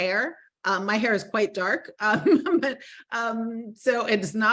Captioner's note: laughing